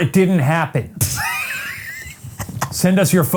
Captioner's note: Ryan laughs